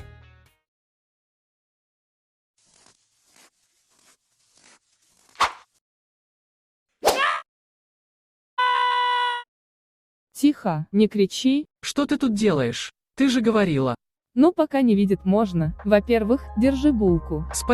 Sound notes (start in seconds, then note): 2.6 snow crunch; 6.5 Frisk's scream